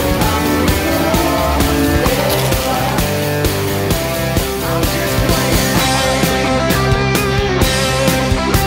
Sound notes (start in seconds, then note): 2.0 crunch